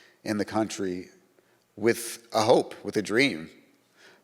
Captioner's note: none